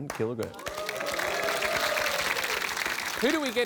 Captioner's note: applause